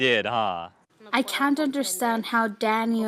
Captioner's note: speaking spanish